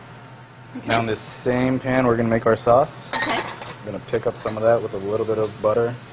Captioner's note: sizzling